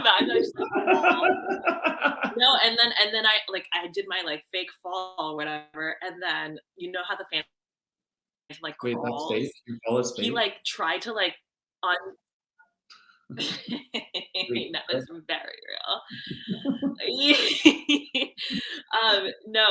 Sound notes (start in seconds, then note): 1.6 laughing; 16.0 laughing